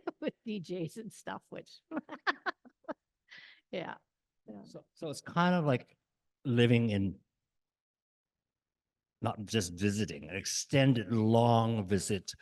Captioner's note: laughs